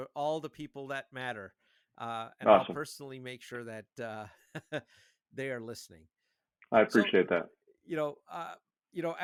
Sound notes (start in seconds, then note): 6.9 laughing